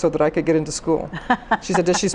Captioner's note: laughs